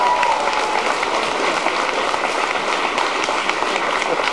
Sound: cheers

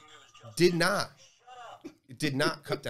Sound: buzzer Voice

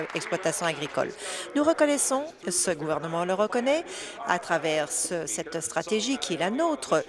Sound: applause

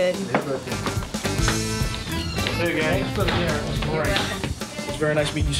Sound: upbeat music; people chattering

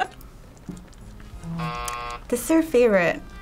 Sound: buzzer

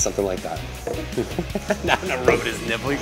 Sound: laughing

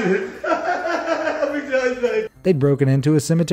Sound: laughter

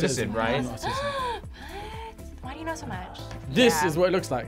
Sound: gasps

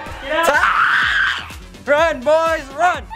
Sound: screaming

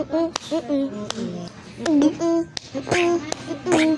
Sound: gulps

